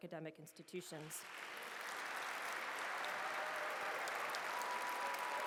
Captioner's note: applause